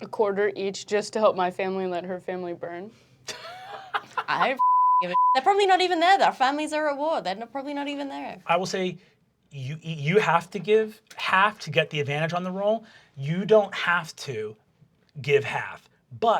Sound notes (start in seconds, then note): 3.3 laughing; 4.6 beep